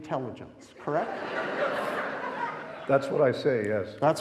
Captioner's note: audience laughing